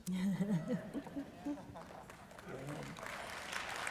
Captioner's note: laughter; applause